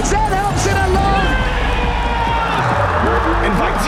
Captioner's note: crowd cheering